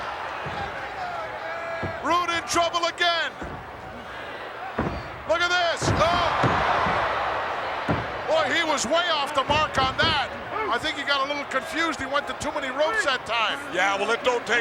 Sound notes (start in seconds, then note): none